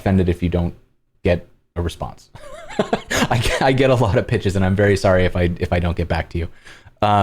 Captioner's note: laughter